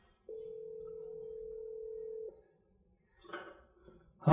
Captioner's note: phone rings